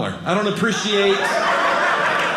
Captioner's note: audience laughing